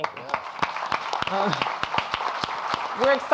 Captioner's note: audience applauding